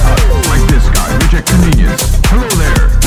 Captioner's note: TV static